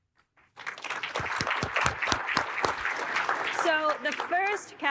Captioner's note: audience applauding